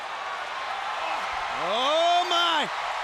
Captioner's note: audience cheers